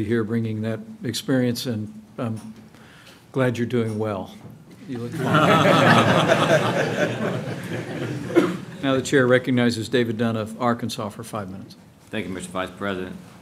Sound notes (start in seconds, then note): 5.1 laughter